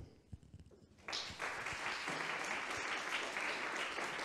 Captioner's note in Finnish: aplodeja